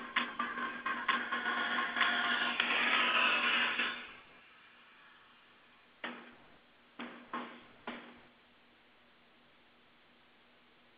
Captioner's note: pause